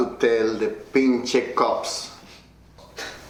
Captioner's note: speaking in foreign language